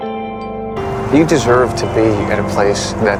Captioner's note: voiceover